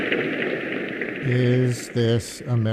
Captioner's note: applause